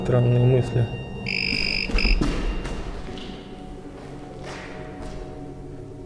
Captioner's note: doll rings